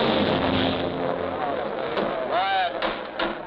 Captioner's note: crowd chatting